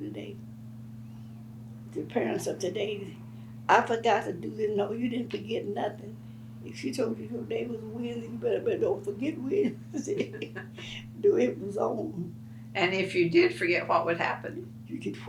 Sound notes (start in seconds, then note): 11.2 laughs